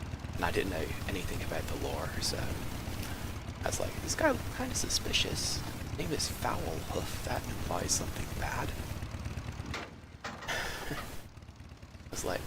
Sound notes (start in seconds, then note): 10.4 chuckles